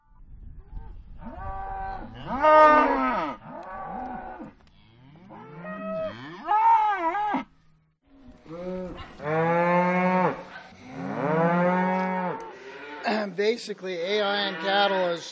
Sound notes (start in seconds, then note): 1.2 cows mooing